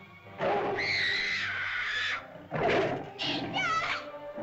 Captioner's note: dinosaur growls; girl shrieks; girl cries out